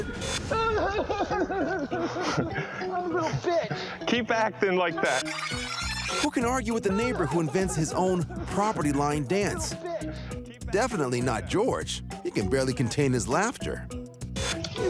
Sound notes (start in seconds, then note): 0.4 chuckles; 0.5 imitating child crying; 5.0 tape rewinding; 14.7 chuckles